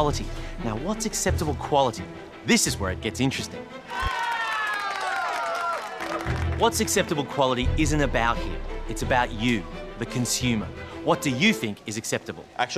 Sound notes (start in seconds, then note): 3.8 all cheer